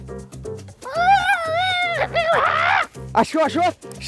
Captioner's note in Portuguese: imitando o corvo